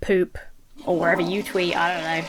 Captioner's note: toilet flushes